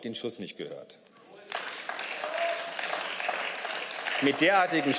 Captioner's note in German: Beifall